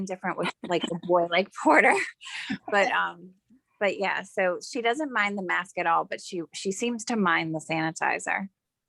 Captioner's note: laughing